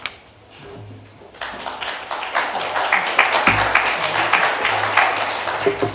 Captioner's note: applause